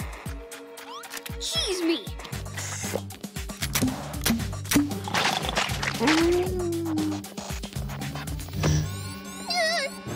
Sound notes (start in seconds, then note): 4.8 snoring; 8.9 yelling